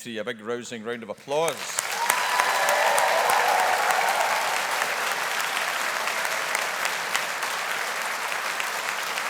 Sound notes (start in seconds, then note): 1.2 audience applauding; 1.5 audience cheering